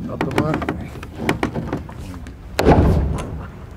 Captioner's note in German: Knarren